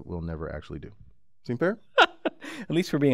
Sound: laugh

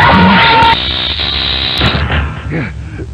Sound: electrical crackling

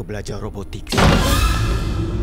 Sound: creepy music; door slams

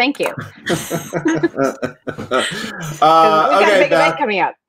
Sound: all chuckling

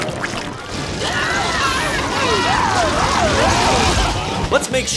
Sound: screaming

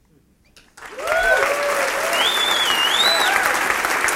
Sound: applause

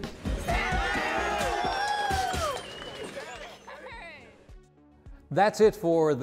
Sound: cheering

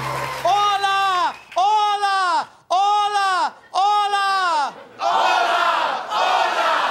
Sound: cheers and applause

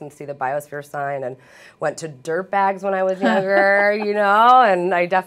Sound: laughter

